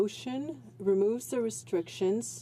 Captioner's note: speaking in french